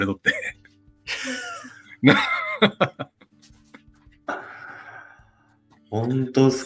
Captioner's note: laughs